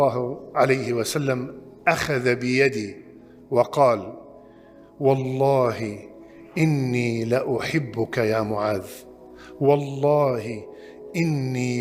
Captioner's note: Arabic